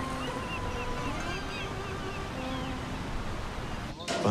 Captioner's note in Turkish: Martı sesleri